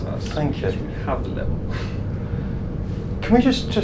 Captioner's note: laughs